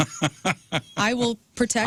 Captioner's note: laughing